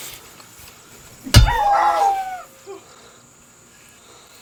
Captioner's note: dog crying